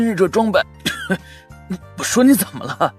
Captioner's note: ahem